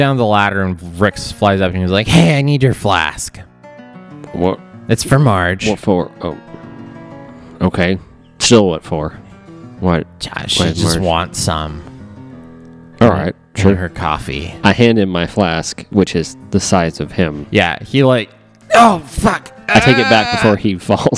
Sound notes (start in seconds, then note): 19.7 straining